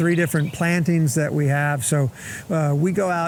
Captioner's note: birds and wind noise